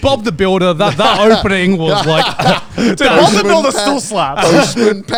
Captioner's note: laughing